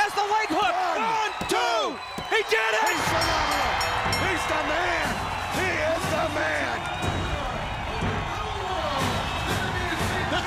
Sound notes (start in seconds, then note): 1.4 crowd cheering; 6.2 crowd cheering